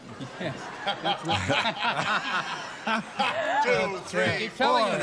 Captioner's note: laughter